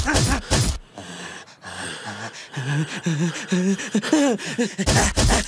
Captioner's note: listening to breathing